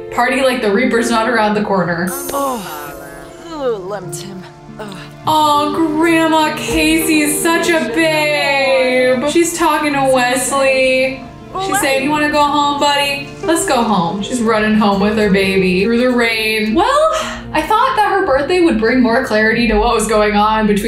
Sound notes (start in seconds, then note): 2.2 Kacey groans